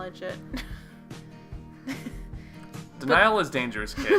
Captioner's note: defiant chuckle